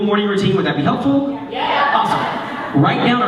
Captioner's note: cheering